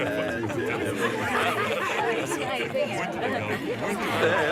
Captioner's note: laughter